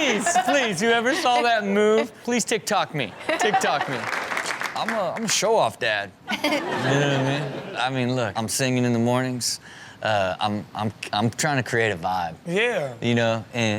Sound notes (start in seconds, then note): 3.4 audience applaud